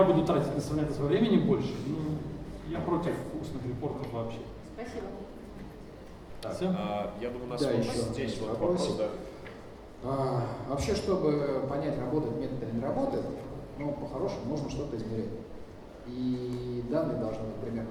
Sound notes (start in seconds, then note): 7.3 speaking in foreign language